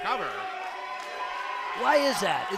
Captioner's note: crowd cheers